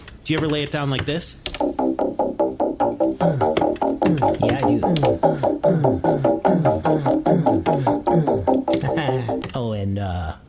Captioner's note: humming along